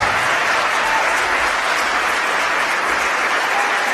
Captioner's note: applause